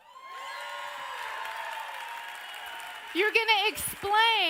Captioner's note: audience cheers